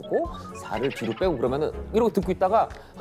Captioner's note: laughs